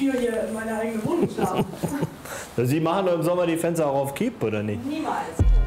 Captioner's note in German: lacht